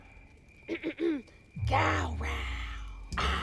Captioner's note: Blueberry clears throat